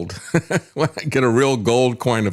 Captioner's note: laughs